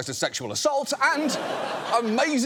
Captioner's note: studio audience laughs